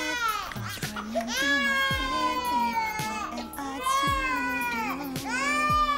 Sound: lyrics drowned out by crying baby

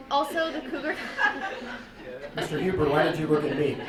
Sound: group laughing

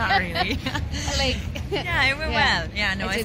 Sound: laughing

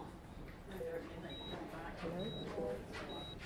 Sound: hospital sounds; muffled voice

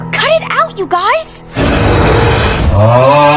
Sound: Andrias roars

